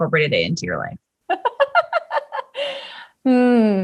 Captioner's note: laughter